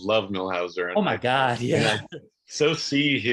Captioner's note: chuckles